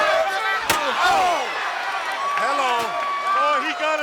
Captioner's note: chair slams